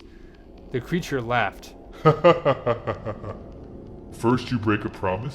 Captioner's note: laughing